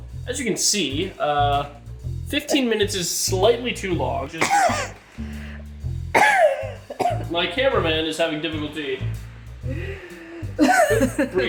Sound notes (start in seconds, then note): 4.3 camera Operator coughing intensely